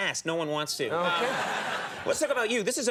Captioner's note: audience laughs